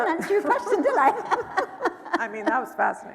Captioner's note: laughing